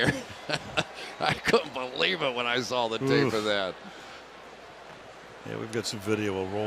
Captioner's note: chuckles